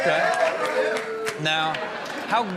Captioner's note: audience clapping